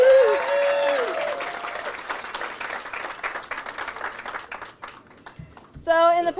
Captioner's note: audience cheers and applauds